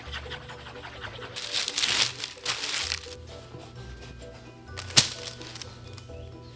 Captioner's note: paper crinkles